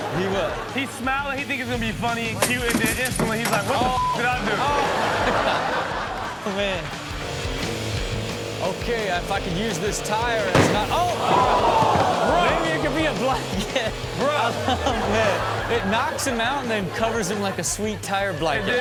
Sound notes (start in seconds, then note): 3.9 beep; 10.4 audience gasps; 10.5 tire pops